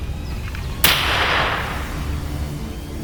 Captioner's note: gunshot